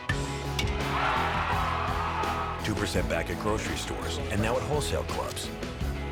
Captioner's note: crowd cheers